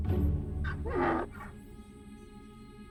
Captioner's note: Donkey's bray; tense music continues